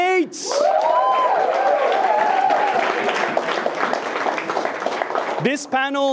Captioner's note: attendees cheering and clapping